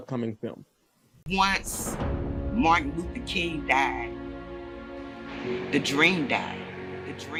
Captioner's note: echoing